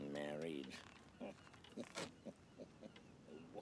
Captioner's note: chuckling